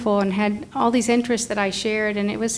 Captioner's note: none